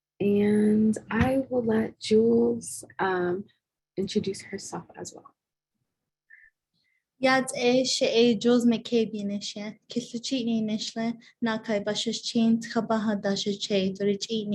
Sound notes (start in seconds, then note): 7.9 speaking foreign language